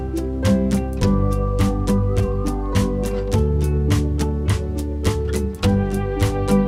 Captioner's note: whistling